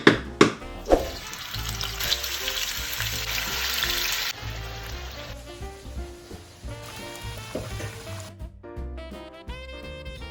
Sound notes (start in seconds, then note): 0.4 chicken frying